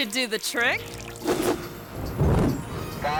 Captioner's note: screen whooshes; fire erupts